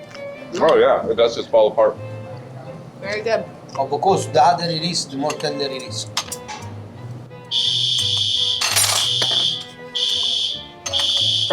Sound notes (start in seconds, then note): 3.9 speaks in Italian; 7.5 fire alarm blares